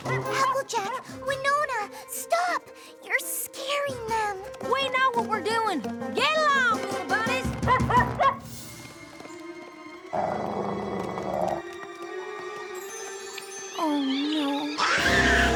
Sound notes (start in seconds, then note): 8.0 barking; 10.1 growling